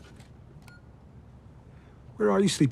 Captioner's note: camera beeps